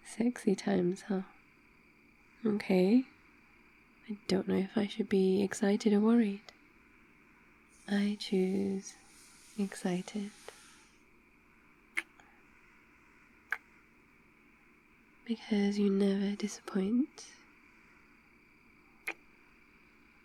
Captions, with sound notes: sexy times, huh? ok, I don't know if I should be excited or worried I choose... excited... *kiss* *kiss* because you never disappoint *kiss*